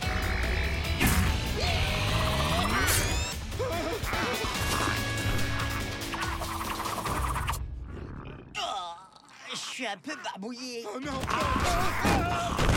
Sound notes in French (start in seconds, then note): 1.5 grognement; 7.8 l'estomac de Peng fait du bruit